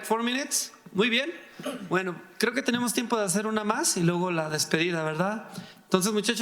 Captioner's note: speaking in foreign language